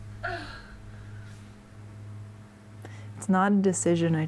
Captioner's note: groans